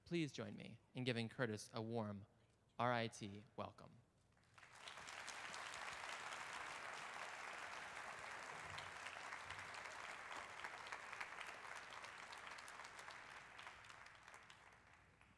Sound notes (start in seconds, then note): 4.4 applause